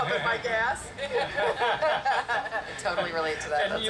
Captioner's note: group laugh